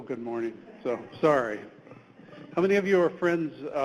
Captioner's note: audience chuckles